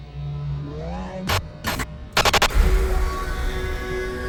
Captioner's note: static hiss; ominous ambient music